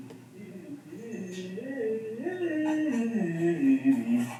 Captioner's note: humming